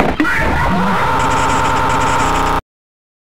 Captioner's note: screams